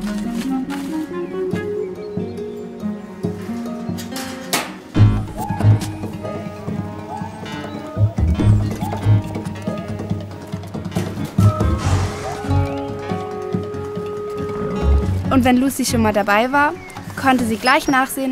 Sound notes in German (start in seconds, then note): 3.6 Schnelle Musik; 11.6 Pferd schnaubt